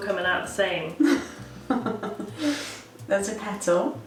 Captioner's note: chuckles